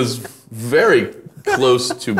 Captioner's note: laughing